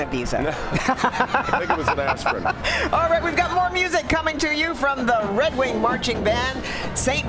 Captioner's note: laughter